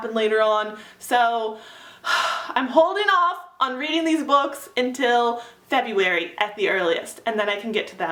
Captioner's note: sigh